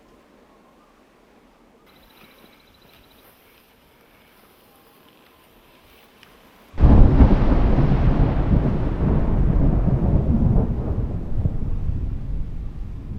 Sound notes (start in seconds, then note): 8.5 thunder rumbles